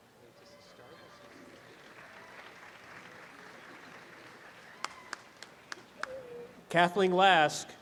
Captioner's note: audience applause